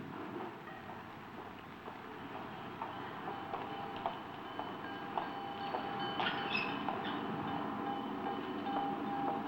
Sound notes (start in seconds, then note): 1.1 footsteps thudding; 2.1 train bell ringing